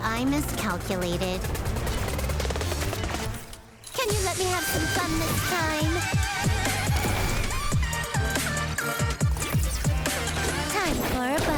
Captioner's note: fighting noises